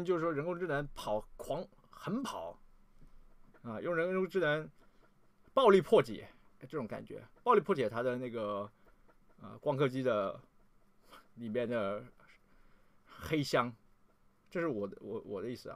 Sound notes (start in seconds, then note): 10.4 dog